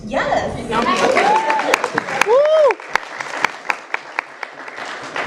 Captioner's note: crowd cheer